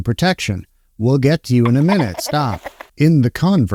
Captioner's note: baby laughing